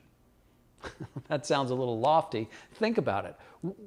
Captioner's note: laughs